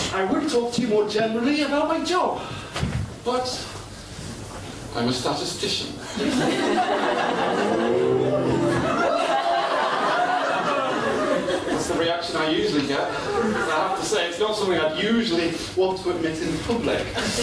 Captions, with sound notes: I would talk to you more generally about my job But I'm a statistician (Jeers) That's the reaction I usually get I have to say, it's not something I'd usually... ...want to admit in public